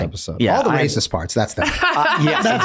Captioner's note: laughing